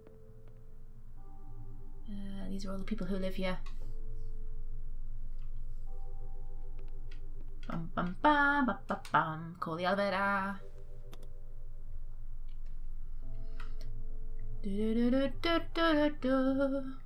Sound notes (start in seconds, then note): 7.7 hums a tune; 14.4 sings